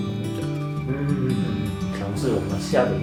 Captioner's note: nonverbal grunt as interjection